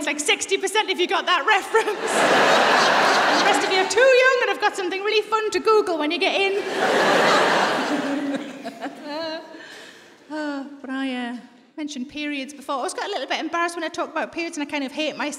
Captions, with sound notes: I love my audience. Like, 60 per cent of you got that reference! (LAUGHTER) The rest are too young and have got something fun to Google when you get in. (LAUGHTER) (LAUGHS) Ah... I mentioned periods before. I always get embarrassed when I talk about periods.